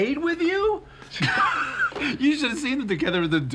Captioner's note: laughs